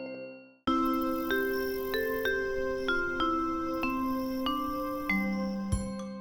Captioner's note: crickets